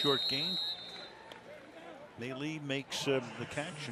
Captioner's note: whistle